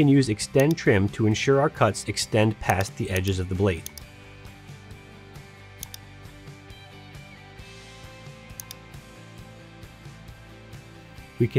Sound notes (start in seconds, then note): 4.1 mouse clicking; 5.5 gentle upbeat music; 8.5 mouse clicking